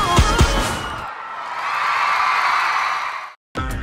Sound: crowd cheering

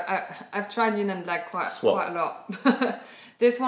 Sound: laughter

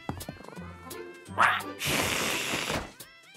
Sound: hissing

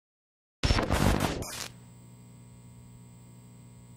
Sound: logo buzzes

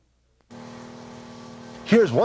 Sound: truck engine revving

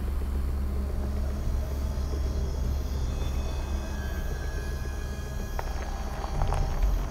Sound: bugs chirping; light dramatic music

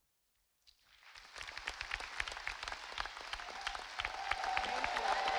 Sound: audience applauding

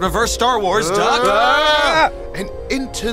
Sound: shouting

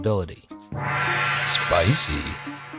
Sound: gong rings

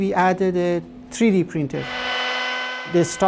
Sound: sawing

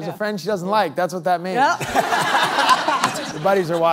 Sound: laughing

